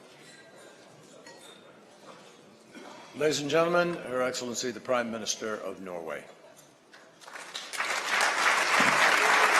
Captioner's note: applause